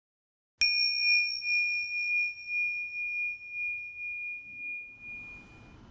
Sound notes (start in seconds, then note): 0.6 bright chime